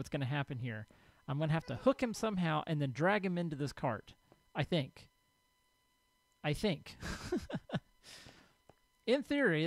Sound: ghast squalls; laughs

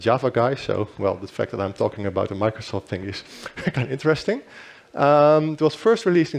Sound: chuckles

